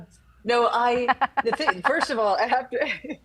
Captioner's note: laughs; laughing